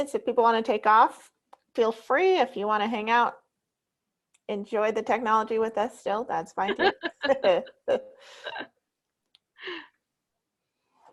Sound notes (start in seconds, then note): 6.6 women laughing